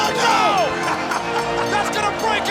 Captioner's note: laughing